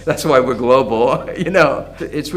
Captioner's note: laughs